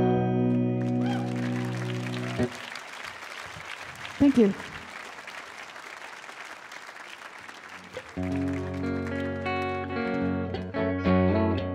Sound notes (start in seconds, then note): 0.8 audience applauding and cheering; 8.2 mellow guitar music